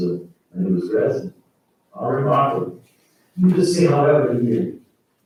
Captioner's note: faintly speaking